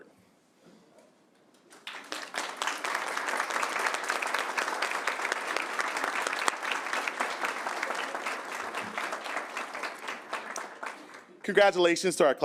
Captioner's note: applause